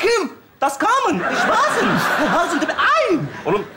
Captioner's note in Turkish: Almanca konuşma taklidi yapar